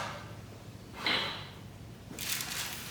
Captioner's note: utensils click; parchment shuffles